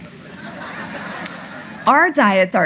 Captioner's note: audience laughing